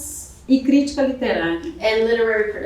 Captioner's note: speaking portuguese